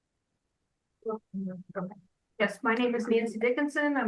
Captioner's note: speaks faintly